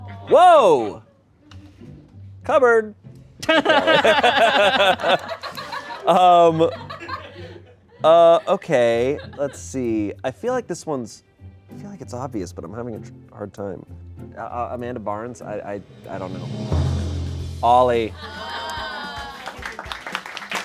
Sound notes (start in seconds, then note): 3.4 everyone laughs; 3.4 laughs; 16.5 deflated music